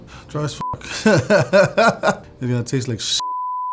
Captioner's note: laughing